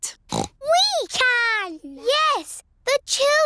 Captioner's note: snorts